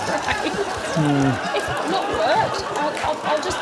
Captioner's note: laughs